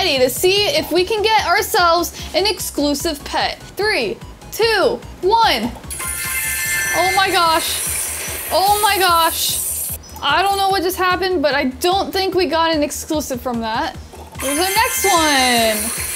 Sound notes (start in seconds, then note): 5.9 bright chiming